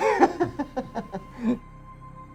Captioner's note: laughter